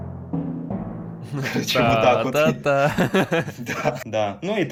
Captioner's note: ahahahahahahah